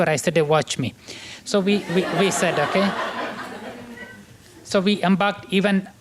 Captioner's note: laughter